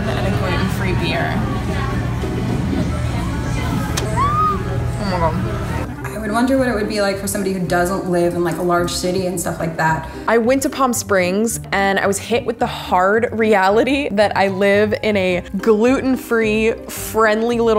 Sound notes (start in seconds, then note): 3.2 squealing